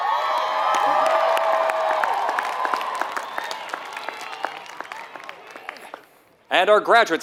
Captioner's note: applause